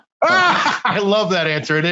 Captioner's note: laughs